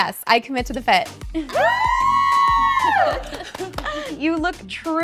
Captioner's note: group cheering